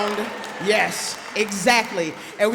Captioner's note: applause